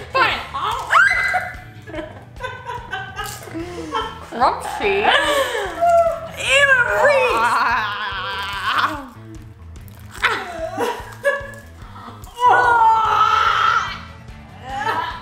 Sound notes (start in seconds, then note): 1.2 laughing; 7.5 groaning; 11.9 screaming